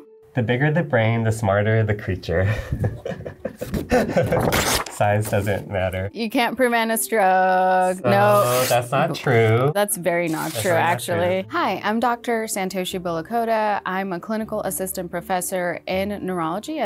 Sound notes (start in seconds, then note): 2.4 laughing